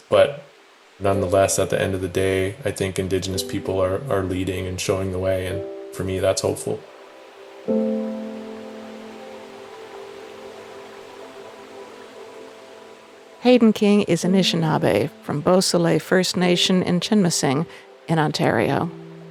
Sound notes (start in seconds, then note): 8.0 soft ethereal music; 8.0 water rushes